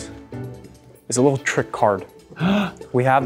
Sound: gasps

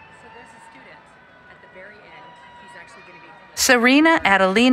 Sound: cheering

